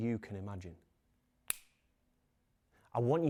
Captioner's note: fingers snap